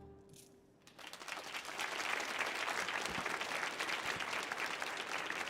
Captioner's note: audience applauding